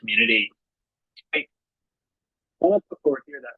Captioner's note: audio cuts out